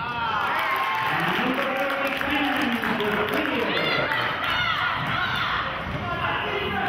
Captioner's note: cheering and clapping